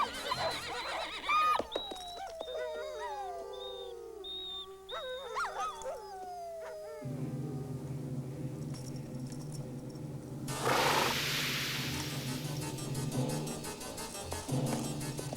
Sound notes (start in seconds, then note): 1.4 wolves whimpering